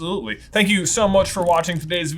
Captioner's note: air whooshing